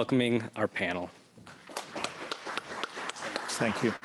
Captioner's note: applause